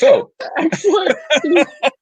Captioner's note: laughing